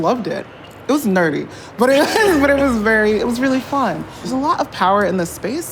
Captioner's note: laughs